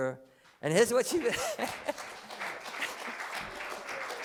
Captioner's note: applause